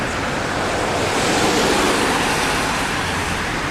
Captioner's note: truck Driving